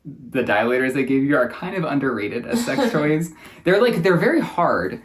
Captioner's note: laughs